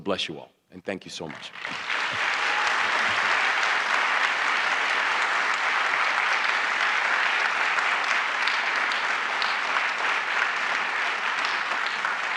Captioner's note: applause